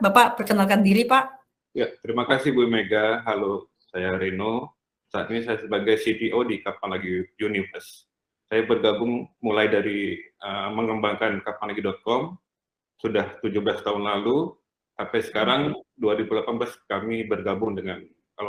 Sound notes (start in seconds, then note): 0.0 non-english speech; 6.4 non-english speech